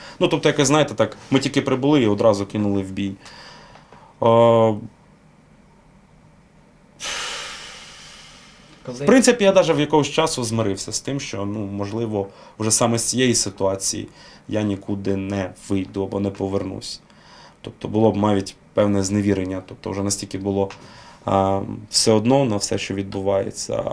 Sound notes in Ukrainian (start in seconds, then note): 7.0 Зітхає